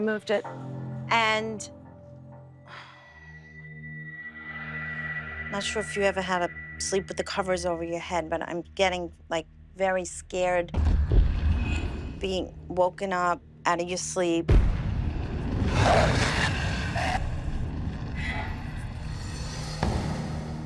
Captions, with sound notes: And-- not sure if you ever had to sleep with the covers over your head, but I'm getting, like, very scared being woken up out of your sleep. [growling]